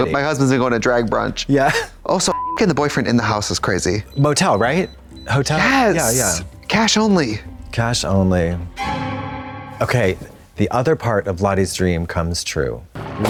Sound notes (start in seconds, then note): 2.3 beep; 8.4 eerie tone